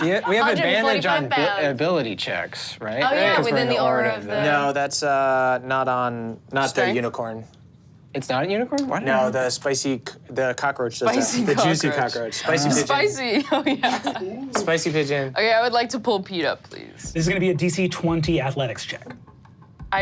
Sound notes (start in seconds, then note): 0.0 laughs; 13.3 laughs